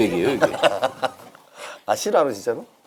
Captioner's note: laughing